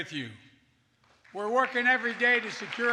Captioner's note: applause